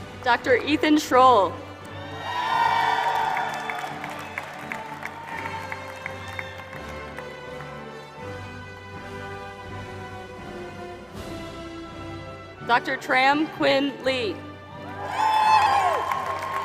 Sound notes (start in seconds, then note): 0.0 applause; 4.9 applause; 16.4 applause